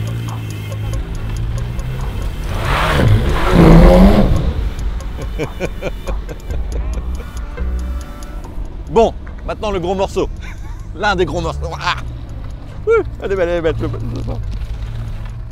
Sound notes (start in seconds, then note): 3.2 engine roaring; 5.1 laughter